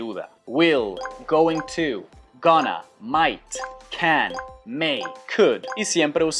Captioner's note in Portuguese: Inglês